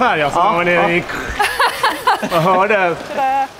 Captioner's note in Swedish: Skratt